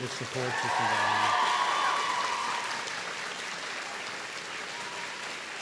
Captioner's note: applause